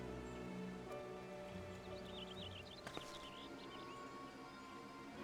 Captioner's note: birds chirping